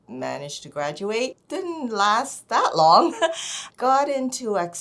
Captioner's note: laughing